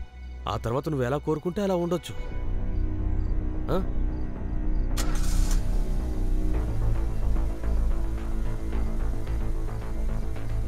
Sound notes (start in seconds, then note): 4.9 engine starts